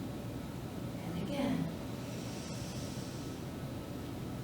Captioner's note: inhales